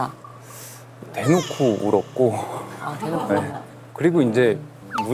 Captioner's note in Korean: 엉엉